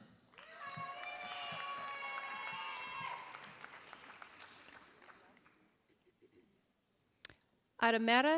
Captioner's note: applause